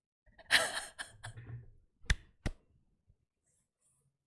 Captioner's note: laughs